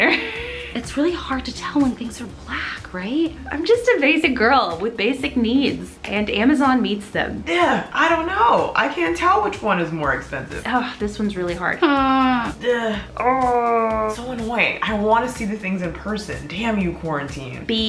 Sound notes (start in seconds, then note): 0.1 laughs; 11.9 frustrated whine; 12.5 annoyed sigh; 13.0 exasperated groan